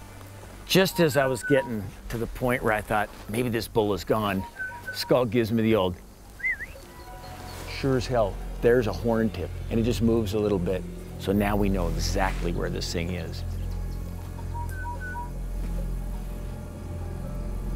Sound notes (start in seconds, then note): 6.3 whistles; 14.5 whistles